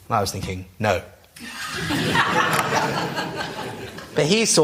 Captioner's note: laughter